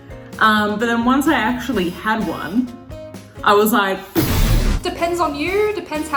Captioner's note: explosion